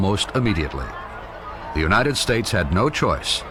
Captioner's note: people chattering